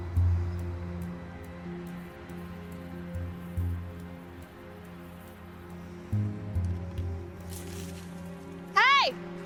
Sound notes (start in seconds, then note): 7.4 branches rattle